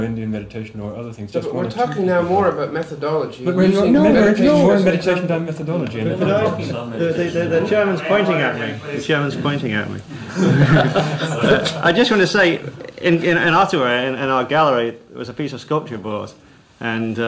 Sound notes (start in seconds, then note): 10.2 laughs; 12.1 laughter